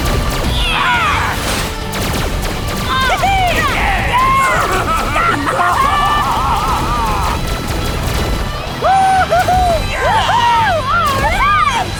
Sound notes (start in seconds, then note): 3.4 cheering; 8.8 cheering